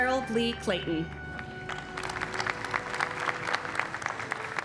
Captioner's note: audience clapping